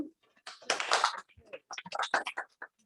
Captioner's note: applause